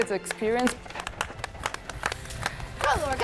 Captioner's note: clapping